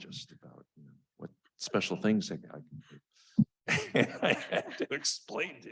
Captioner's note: chuckles